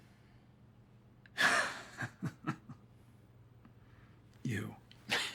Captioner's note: Kent chuckling